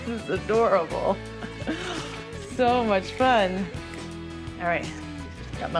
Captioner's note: chuckles